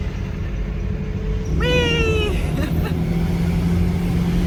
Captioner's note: laughter